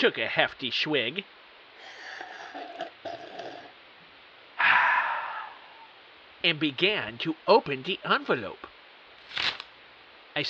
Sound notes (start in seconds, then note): 1.8 drinking noise; 9.2 envelope Tearing